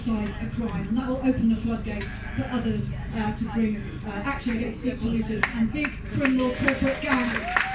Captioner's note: cheering, clapping